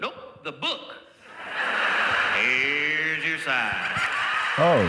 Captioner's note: crowd laughing